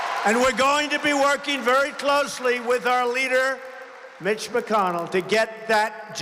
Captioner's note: applause